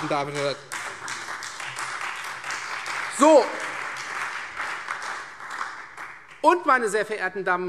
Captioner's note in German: Beifall Freie Demokraten, vereinzelt CDU, BÜNDNIS 90/DIE GRÜNEN und SPD